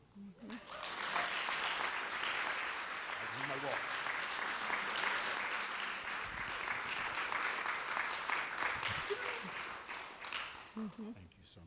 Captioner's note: applause